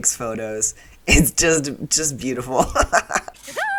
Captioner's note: laughter